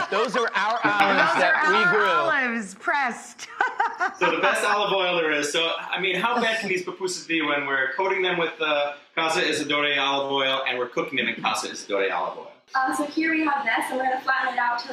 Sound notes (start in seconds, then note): 3.4 laughing